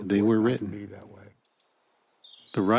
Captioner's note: birds chirping